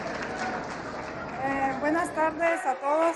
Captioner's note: applause